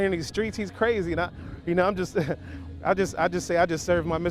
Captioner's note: laughs